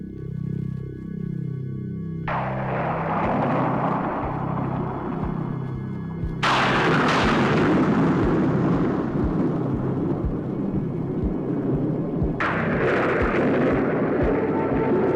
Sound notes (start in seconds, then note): 2.6 thunder clapping